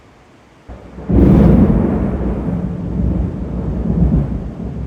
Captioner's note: loud thunder